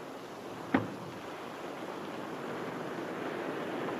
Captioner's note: microscope thuds